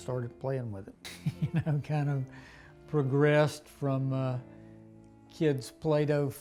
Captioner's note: laughing